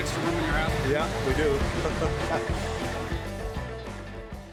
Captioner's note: chuckles